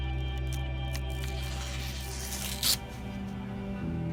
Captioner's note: paper tearing